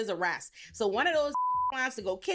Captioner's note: beep